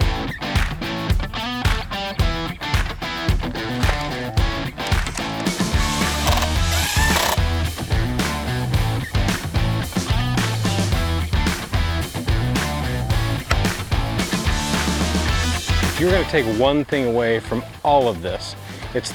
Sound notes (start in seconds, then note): 0.2 upbeat music; 4.9 drilling; 6.2 upbeat music